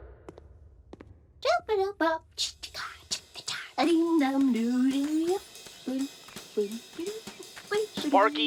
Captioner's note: Huggins humming with symbols in the background